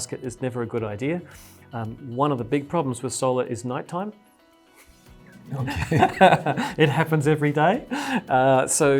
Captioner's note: laugh